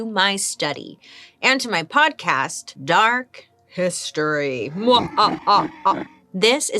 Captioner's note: laughs evilly